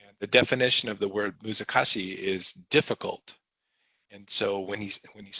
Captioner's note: speaking japanese